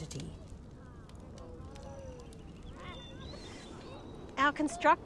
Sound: people chattering faintly

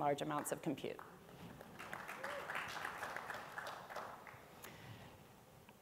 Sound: audience applauds

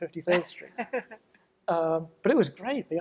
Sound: laughs

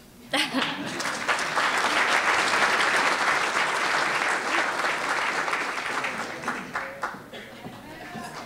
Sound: applause

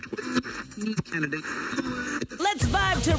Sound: radio scrambling

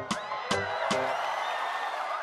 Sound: screams and Applause

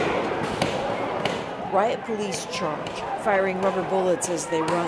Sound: gunshots

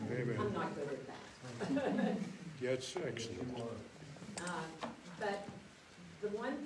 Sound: laughs

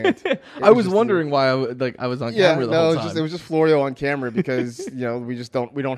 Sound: laughs; laughs

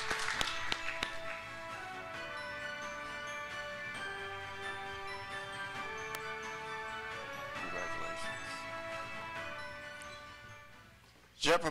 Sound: applause

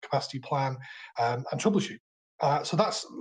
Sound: murmurs

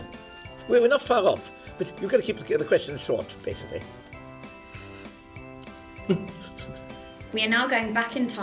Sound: laughter

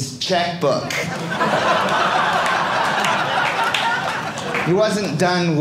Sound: audience laughing

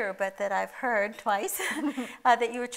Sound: chuckles

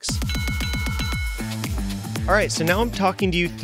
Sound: bells ringing

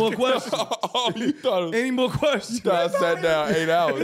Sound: laughing continues

